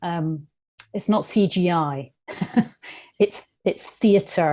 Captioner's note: laughs